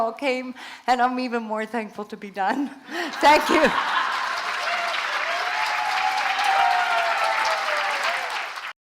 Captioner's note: applause